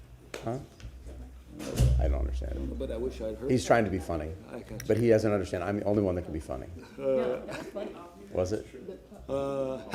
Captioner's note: laughter